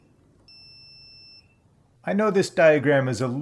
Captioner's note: beeping; beeping stops